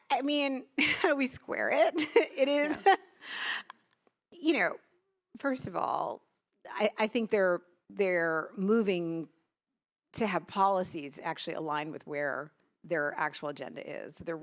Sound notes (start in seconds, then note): 1.8 laughs